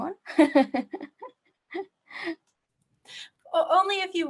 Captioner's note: laughing